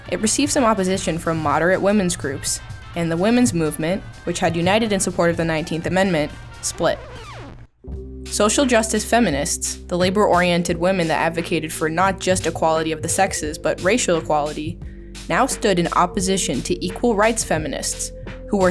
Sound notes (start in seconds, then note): 7.1 image screeches; 7.8 somber instrumental music